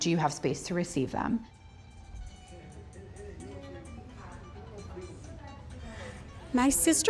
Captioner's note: families chattering; quiet guitar music